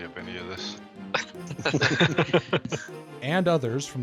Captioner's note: all laughing